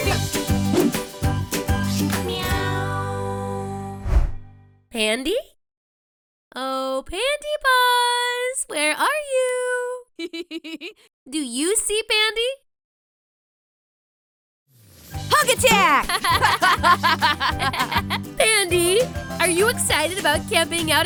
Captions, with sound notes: [POP MUSIC] Meow. Pandy. Oh, Pandy Paws, where are you? [LAUGHS] Do you see, Pandy? Hug attack! [LAUGHTER] Pandy, are you excited about camping out